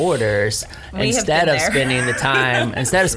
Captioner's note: laughs